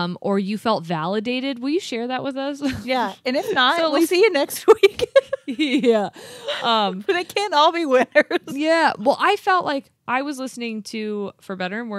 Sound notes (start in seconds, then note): 4.8 chuckling; 8.0 chuckles